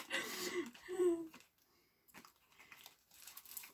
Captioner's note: more laughing; sighs from laughing